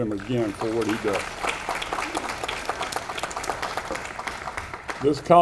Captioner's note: audience applauding